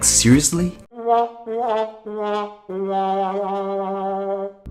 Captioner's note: trumpet Fail Sound